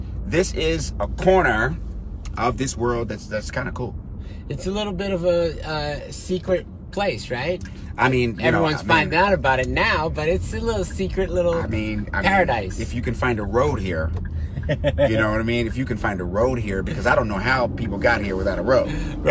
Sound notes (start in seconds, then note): 14.2 driver laughing